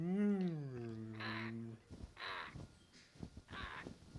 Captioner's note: crows cawing